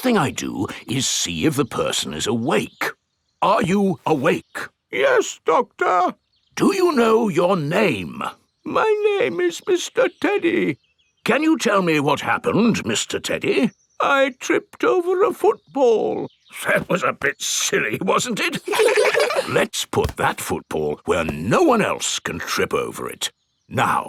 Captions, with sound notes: First thing I do is see if the person is awake. Are you awake? (IN TEDDY'S VOICE) Yes, Doctor. (IN NORMAL VOICE) Do you know your name? (IN TEDDY'S VOICE) My name is Mr. Teddy. (IN NORMAL VOICE) Can you tell me what happened, Mr. Teddy? (IN TEDDY'S VOICE) I tripped over a football. (IN NORMAL VOICE) That was a bit silly, wasn't it? (KIDS LAUGH) Let's put that football where no one else can trip over it.